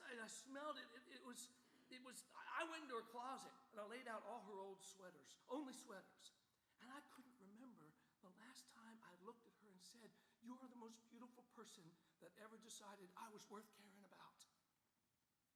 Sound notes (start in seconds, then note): none